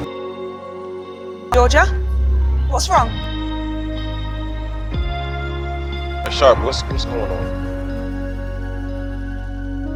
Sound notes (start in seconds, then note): 2.8 voiceover; 6.5 voiceover